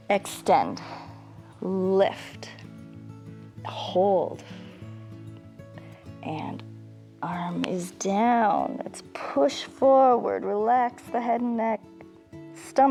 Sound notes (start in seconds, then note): 4.4 exhales